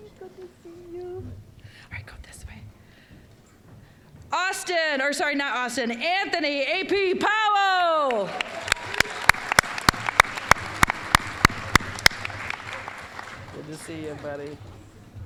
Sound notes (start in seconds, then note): 8.0 applause